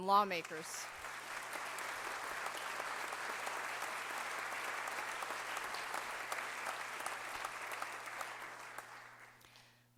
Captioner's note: applause